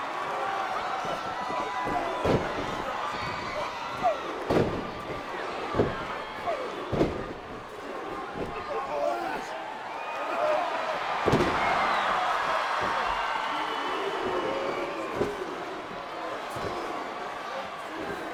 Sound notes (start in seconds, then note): 4.7 bodies thudding; 9.6 Hogan grunting; 11.1 body thuds